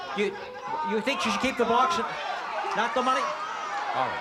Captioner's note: crowd exclaiming